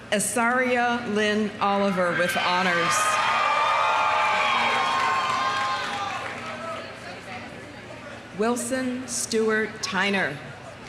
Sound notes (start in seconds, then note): 2.1 audience cheering; 3.4 audience applauding